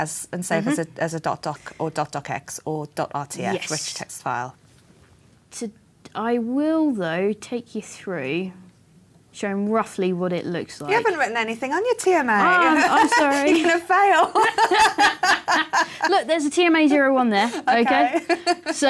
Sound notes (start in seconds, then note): 14.2 laughter